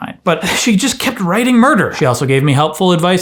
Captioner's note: none